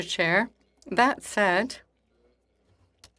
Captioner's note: speaking in French